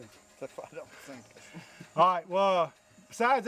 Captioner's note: laughing